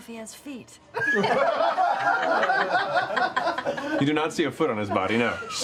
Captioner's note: laughter